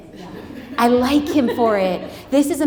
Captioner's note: audience laughs